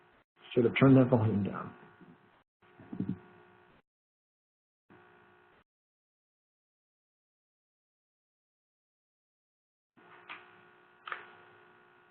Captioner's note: no sound